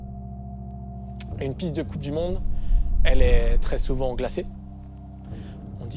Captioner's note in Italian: parla in francese